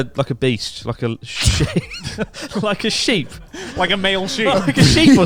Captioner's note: all laughing